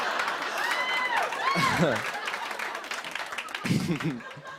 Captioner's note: laughter; chuckling